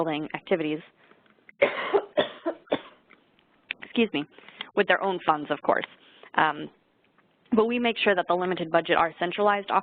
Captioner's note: coughs